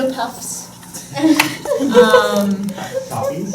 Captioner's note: laughing